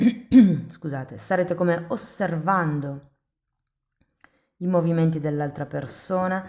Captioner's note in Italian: schiarire la voce